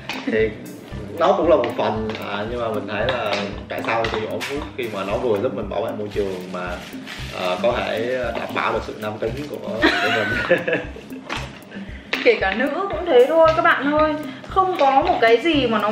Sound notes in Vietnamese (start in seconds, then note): 9.8 cười